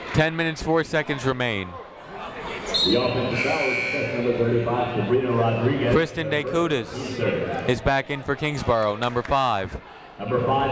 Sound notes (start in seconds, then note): 3.1 muffled voice speaking over speaker